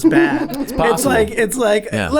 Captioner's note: laughing